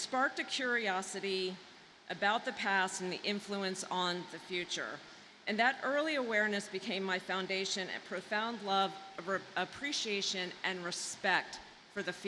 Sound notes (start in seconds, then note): none